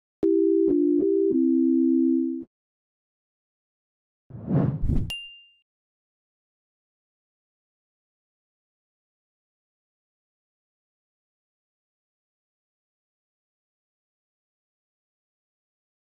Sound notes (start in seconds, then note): 4.8 wooshing and Ding